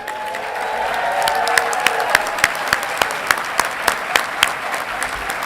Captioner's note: audience clapping and cheering